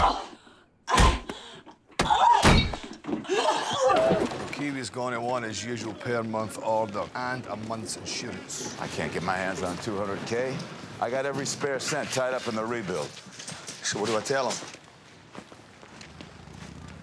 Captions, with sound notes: [GASPS] Joaquin is going at one as usual per month order and a month's insurance. I can't get my hands on $200k. I got every spare cent tied up in the rebuild. So what do I tell him?